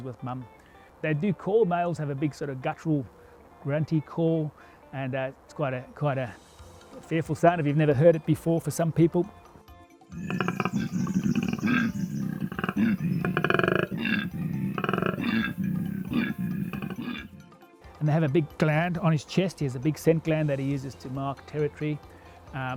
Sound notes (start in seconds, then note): 10.1 terrifying Koala noise